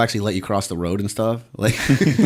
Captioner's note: laughter